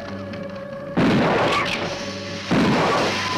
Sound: gun firing; Gila monster hissing

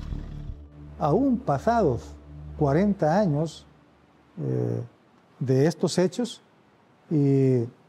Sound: speaking Spanish

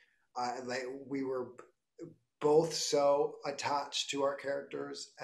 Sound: laughing

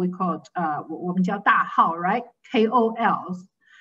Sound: speaking in foreign language

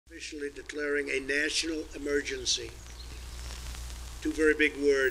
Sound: tv audio

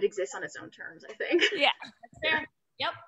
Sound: laughs

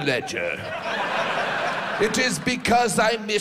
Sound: audience laughs

